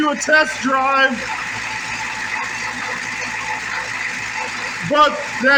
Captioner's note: engine idling